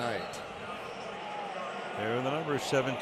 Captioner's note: pa announcement